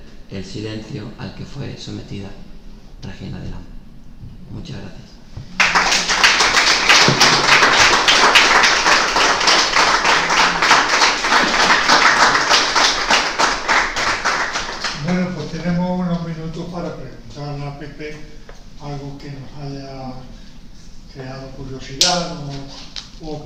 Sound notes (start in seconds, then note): 5.5 applauses